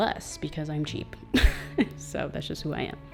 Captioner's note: laughs